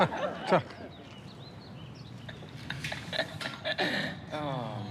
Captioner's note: laughter